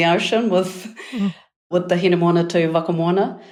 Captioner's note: speaking in foreign language